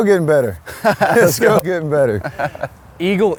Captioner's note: laughs